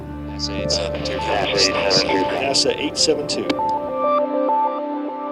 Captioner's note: Radio: NASA 872